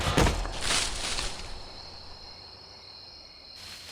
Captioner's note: none